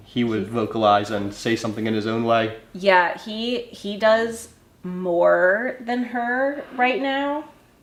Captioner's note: none